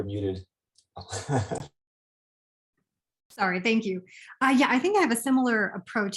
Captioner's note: chuckles